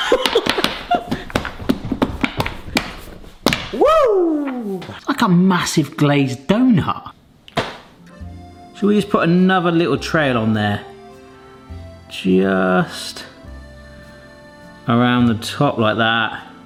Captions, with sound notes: (hands and feet clattering) Woo! That's like a massive glazed donut. Should we just put another little trail on there? Just around the top like that?